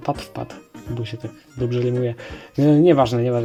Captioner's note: in Polish